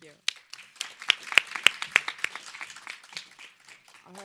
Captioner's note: audience applauds